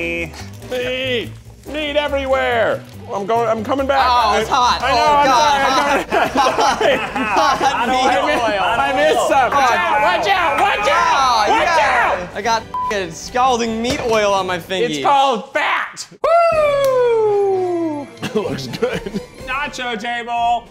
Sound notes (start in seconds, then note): 5.6 laughing; 12.7 beep